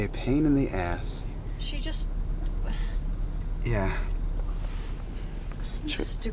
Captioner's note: scoffs